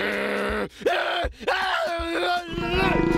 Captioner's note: screaming